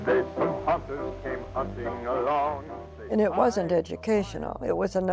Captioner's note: soundbite of tv show, "captain kangaroo"; soundbite of tv show, "the open mind"; singing